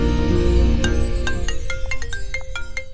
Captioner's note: Phone ringing